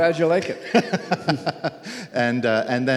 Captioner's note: laughs